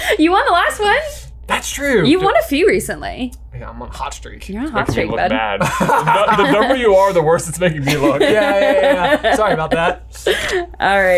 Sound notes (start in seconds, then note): 5.3 laughs